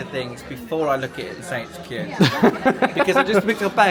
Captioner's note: laughs